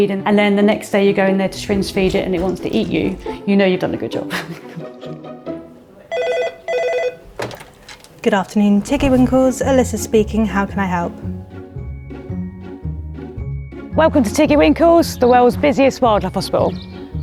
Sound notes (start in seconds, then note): 6.0 telephone ringing; 11.4 playful music